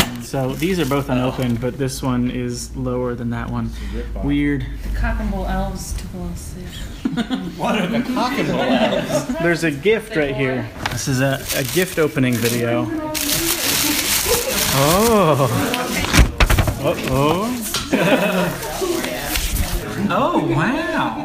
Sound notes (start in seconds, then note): 6.9 people giggling; 10.8 unwrapping sounds